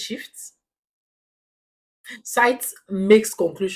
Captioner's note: paause